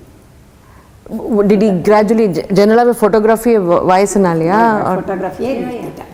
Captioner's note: in Tamil